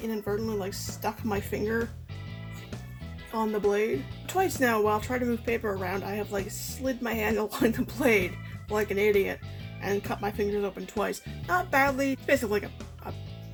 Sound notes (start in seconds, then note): 6.6 laughing